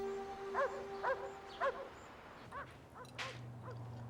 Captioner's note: dog barking